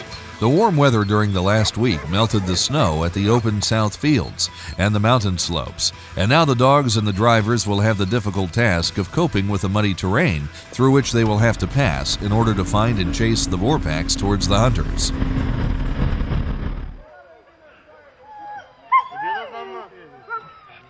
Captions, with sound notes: The warm weather during the last week, melted the snow at the open southfields and the mountain slopes and now the dogs and the drivers will have the difficult task of coping with a muddy terrain through which they will have to pass in order to find and chase the boar packs towards the hunters. [vechicle engine revving] [dog whining]